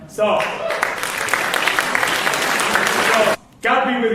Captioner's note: applause